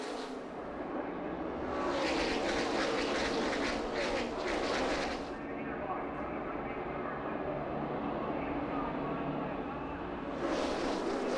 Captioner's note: engines roar